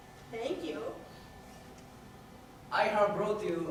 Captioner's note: none